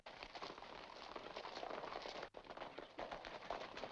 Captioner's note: horses galloping